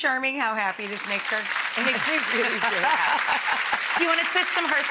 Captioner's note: audience applause; laughing